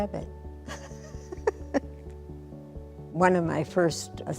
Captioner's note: giggles